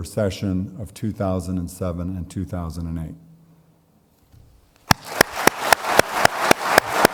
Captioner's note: audience clapping; clapping